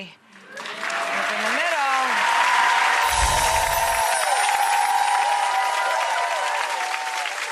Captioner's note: audience applauding